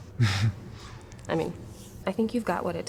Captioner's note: Tristan chuckles